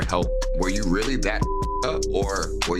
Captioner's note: beeps